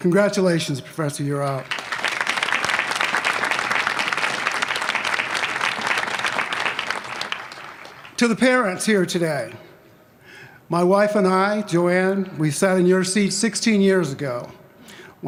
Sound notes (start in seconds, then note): 1.6 applause